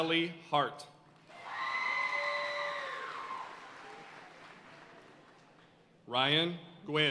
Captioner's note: audience cheering and applauding